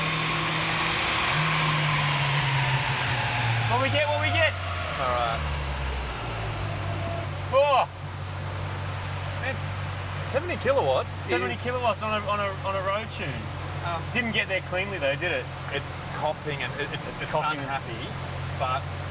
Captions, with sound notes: (engine decelerating) -What'd we get! What'd we get! -Alright. -(engine idling) -Oh! -70 kW, is. -70kW on a Road Tune. -Didn't get there cleanly though, did it? -It's coughing and it's unhappy. But,